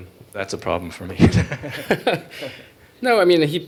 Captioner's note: laughter